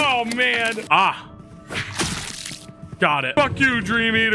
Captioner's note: blood splatters